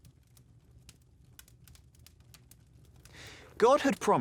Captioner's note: flames crackling